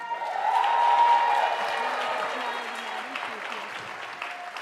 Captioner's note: audience applauding